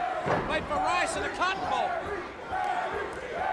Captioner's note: crowd cheering